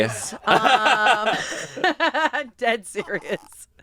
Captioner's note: everyone laughs